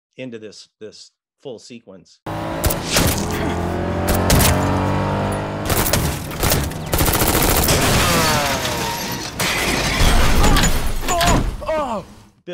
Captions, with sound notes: into this full sequence. (engine roaring) (silencer gunshots) (automatic weapon shooting) (window shattering) (thud of head slamming)